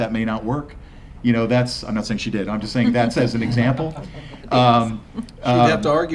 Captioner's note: laughter